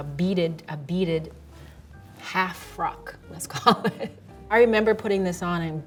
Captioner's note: laughs